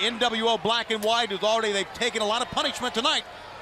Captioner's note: crowd chatter